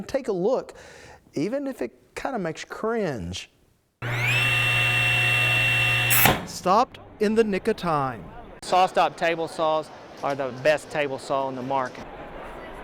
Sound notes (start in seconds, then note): 4.0 table saw buzzing